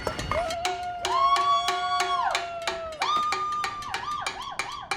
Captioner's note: Liz cheering